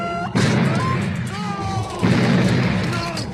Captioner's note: high-Pitched Sound